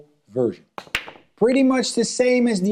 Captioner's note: balls clanging